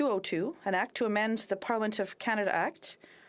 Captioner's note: speaking FRENCH